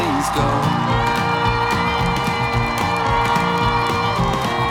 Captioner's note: audience cheering